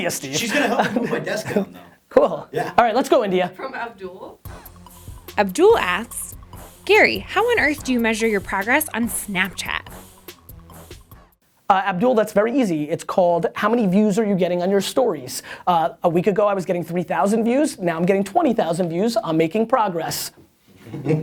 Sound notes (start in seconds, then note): 5.2 voiceover